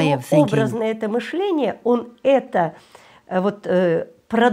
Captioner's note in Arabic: الصوت المنطوق بالروسية